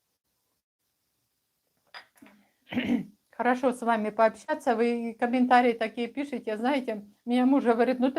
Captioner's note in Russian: откашливается